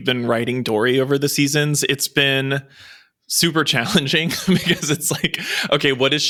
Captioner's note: laughs